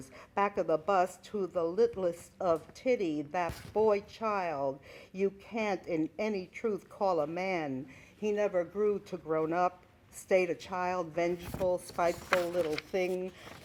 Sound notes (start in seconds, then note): none